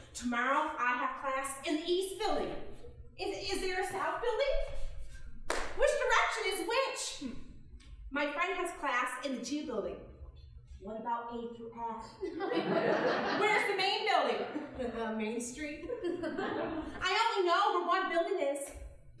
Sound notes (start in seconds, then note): 12.2 audience laughing; 15.9 chuckling